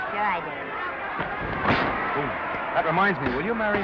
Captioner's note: crowd cheering; punch thudding